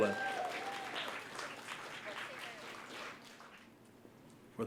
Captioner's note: applause